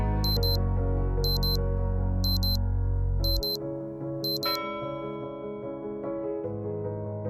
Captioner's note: beep Sound